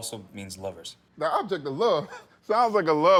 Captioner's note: laughs